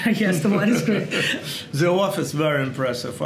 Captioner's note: Sasha and Gary laugh